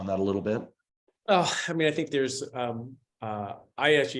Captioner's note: sighs